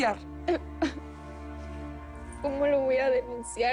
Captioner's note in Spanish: Sollozos